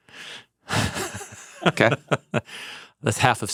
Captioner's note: laughs